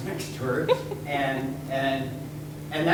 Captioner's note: female laughing